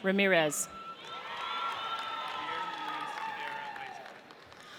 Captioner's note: audience cheers